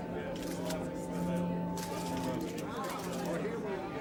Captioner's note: camera clicks